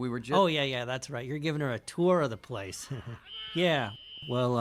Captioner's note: chuckles